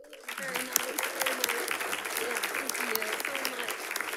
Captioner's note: audience clapping